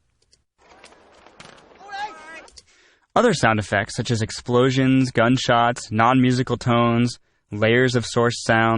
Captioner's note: clicking sound; clicking sound